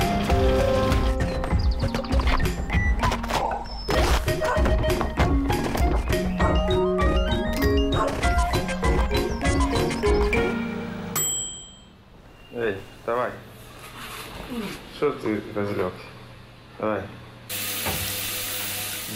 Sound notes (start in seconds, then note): 9.2 timer dings; 16.2 man speaking native language